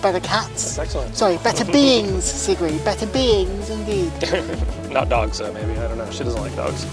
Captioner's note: laughs